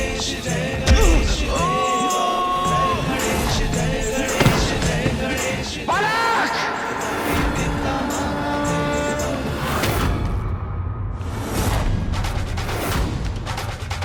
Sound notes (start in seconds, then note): 1.6 screams; 3.5 falls